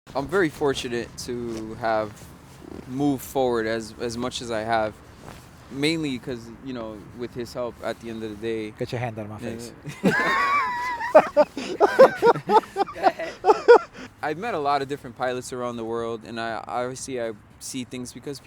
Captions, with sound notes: I'm very fortunate to have moved forward as much as I have. Mainly because, you know, with his help at the end of the day. - Get your hand out of my face. (laughing) - I've met a lot of different pilots around the world. And I obviously I see things because